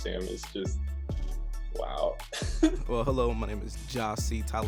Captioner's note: laughs